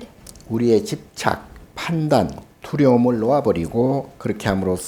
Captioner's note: speaking Korean